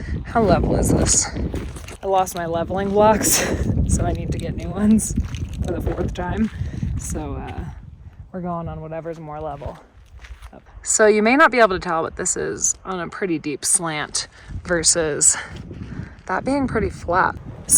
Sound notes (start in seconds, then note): 3.5 laughs